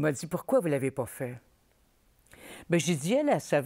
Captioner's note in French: none